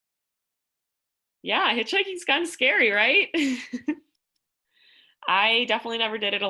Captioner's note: laughter